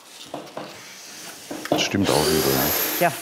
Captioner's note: Bohrgeräusche